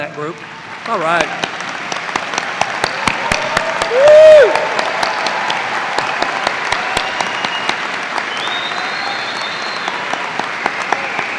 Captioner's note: cheers and applause